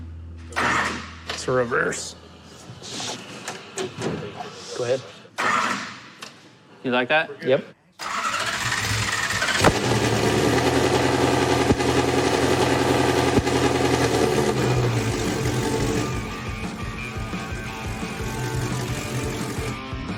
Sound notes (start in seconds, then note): 5.1 clicking; 8.3 engine starts